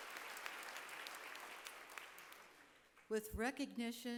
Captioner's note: applause